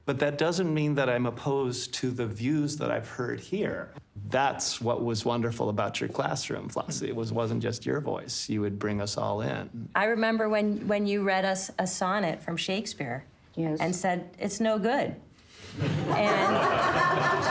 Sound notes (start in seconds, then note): 15.7 laughter